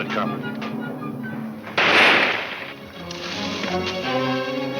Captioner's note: gun firing; exciting orchestra music; guns firing